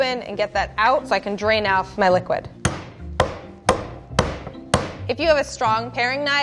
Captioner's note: bashes